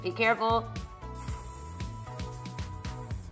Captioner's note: sizzling imitation